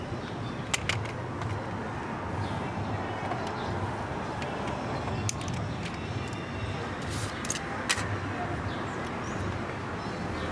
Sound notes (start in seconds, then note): 0.0 birds singing